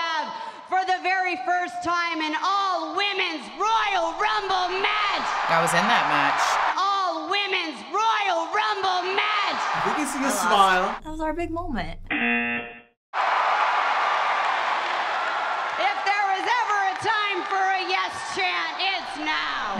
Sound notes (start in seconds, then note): 12.3 buzzer; 13.1 spectators cheering